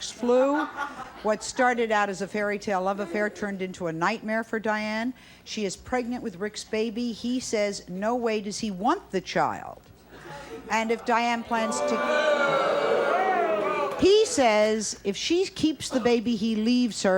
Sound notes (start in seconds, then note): 0.3 audience laughing; 11.0 audience booing